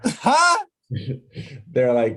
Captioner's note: laughing